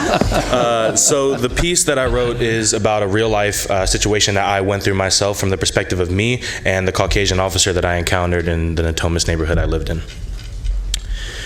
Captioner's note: laughter